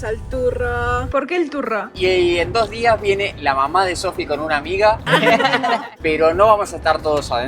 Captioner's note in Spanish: risas